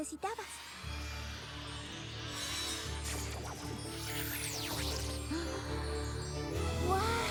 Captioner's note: whoosh